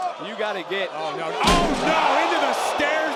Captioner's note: steps clanks